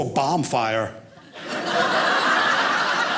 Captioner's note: audience laughing